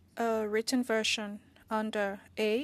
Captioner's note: speaking French